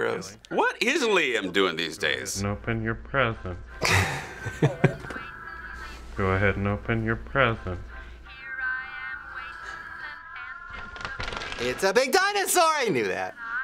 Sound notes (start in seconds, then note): 3.8 chuckles